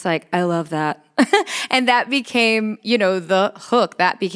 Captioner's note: chuckles